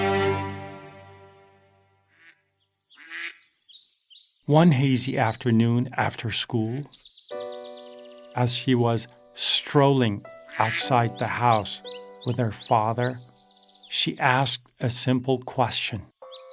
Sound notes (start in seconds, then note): 2.4 birds chirping; 3.0 duck quacking; 7.5 gentle music